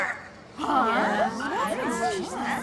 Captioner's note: murmurs from the crowd